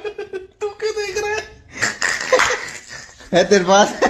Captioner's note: Laughter